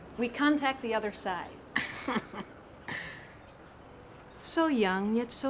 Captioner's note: laughing